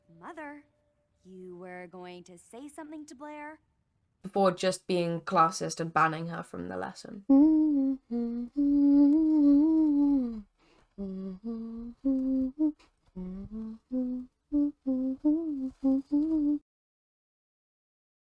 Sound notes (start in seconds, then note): 7.3 humming